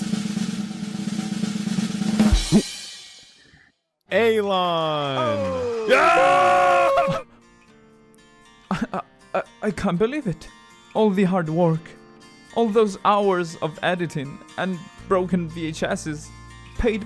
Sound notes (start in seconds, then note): 0.0 drumroll; 7.2 gasp